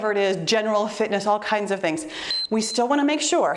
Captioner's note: timer beeps